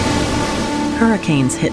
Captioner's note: waves crashing